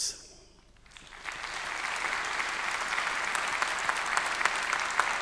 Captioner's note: everyone applauding